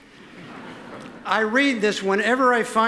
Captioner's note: audience laughs